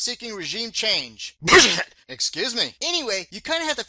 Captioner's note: sound of a sneeze